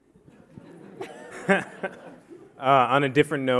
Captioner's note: audience laughing